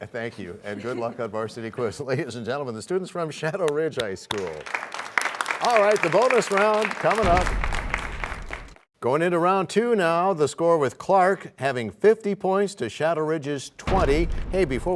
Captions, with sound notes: -I'll do it for you. -Thank you. Good luck on Varsity Quiz. Ladies and gentlemen, the students from Shadow Ridge High School. [applause] All right. The Bonus Round coming up. [crashing sound] Going into Round 2 now, the score with Clark having 50 points to Shadow Ridge's 20.